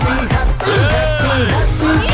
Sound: mocking

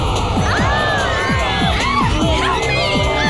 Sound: shrieks

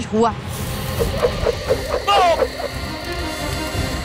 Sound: swishing; screams; dramatic music playing

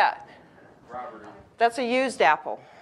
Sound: audience mumbling

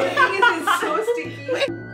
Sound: laughter

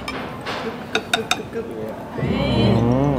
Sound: chomp

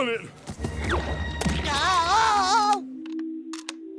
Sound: groaning

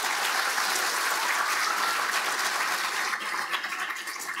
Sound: audience applauding

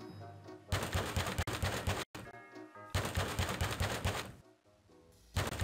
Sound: banging on door

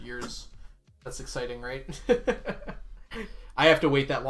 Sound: laughs

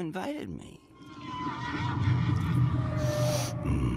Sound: dissonant shrieking

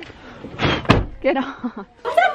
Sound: blows

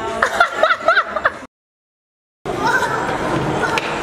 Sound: laughing

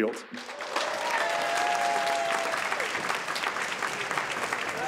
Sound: audience applauds

